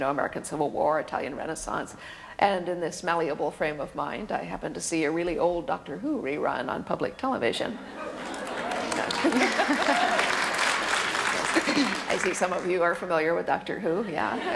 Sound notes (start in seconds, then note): 7.9 laughter and applause; 14.3 audience laughter